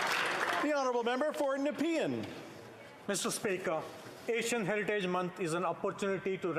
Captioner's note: applause